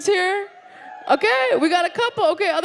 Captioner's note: audience woos